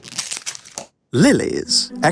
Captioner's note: wrapper tears